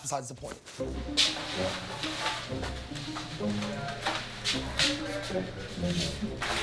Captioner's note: silly music continues; girls chattering